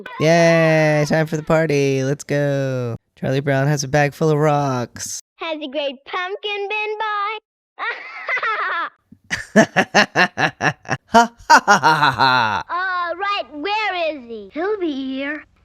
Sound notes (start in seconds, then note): 9.2 forced laugh; 11.9 imitates the laugh